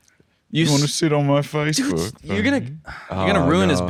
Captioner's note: as Austin Powers